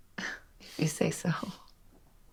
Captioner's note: laughs